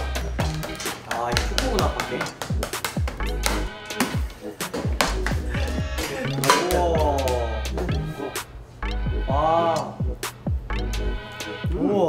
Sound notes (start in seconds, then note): 3.2 the hammering won't end; 5.4 giggle